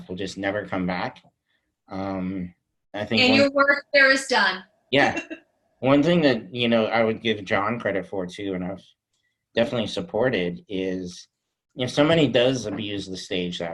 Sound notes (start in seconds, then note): 4.6 laughs